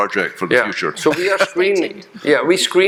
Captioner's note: chuckling